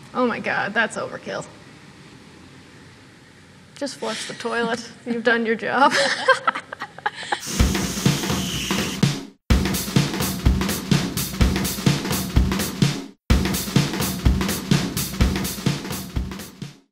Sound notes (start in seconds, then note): 5.9 laughs; 7.8 energetic drum music